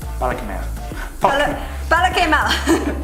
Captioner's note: stammering